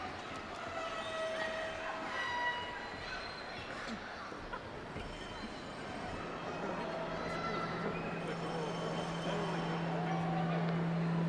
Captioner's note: cheers and applause